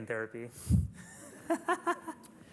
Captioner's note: laughter